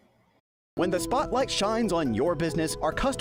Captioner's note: voice-over